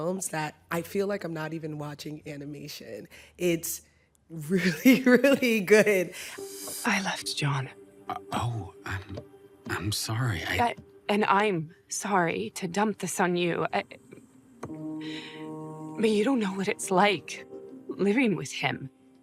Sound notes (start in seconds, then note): 5.3 chuckles; 13.5 stutters; 14.6 inhales